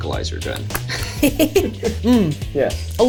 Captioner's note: laughs